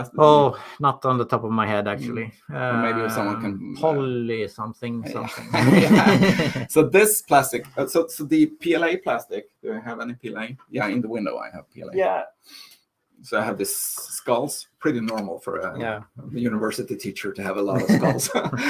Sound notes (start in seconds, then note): 5.1 laughing